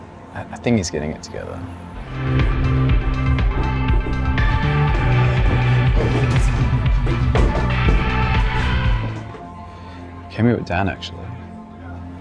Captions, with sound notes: I think he's getting it together. [Party music] [Thud] I came here with Dan, actually.